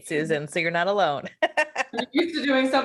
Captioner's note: laughs